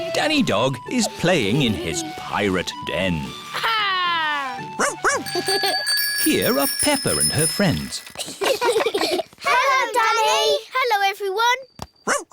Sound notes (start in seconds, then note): 5.3 giggles; 8.2 all giggling